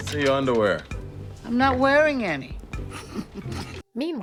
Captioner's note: chuckles